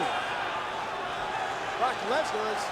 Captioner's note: audience chattering